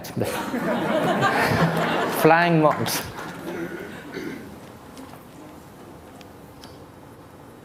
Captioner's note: laughter